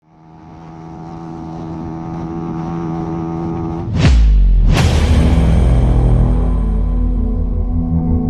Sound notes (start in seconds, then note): 0.0 car engine humming; 4.2 tense music